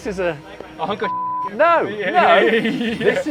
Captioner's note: laughs